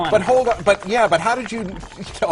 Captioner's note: laugh